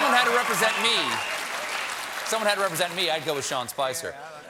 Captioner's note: cheers and applause